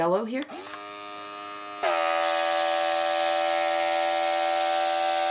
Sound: airbrush begins buzzing

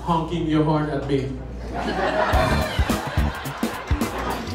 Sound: laughter

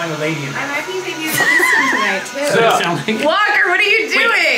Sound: laughs

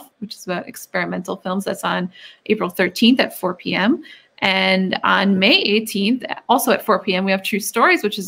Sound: none

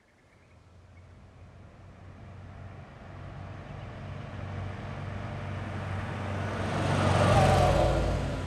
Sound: A sound of a car driving

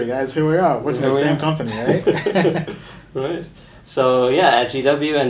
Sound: laughing

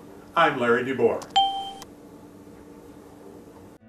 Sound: ding

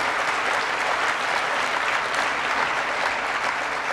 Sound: applause

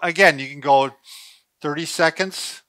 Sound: sniffs

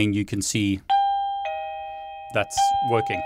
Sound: doorbell rings

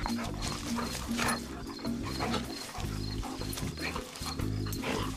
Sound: grunting and slobbering; laughs

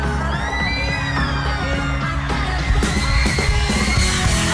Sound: band plays upbeat rock intro; applause and cheering

